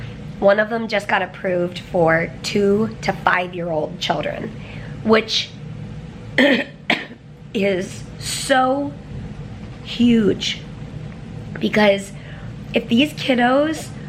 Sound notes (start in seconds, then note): 6.4 clears throat